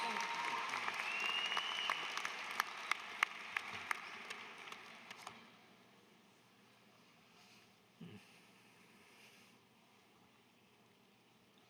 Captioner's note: applause